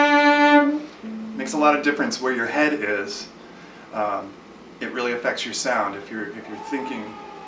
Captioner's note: cheers coming from another apartment